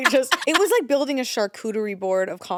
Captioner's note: laughs